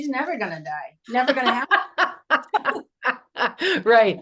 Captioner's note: laughs